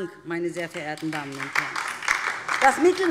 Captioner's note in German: Beifall DIE LINKE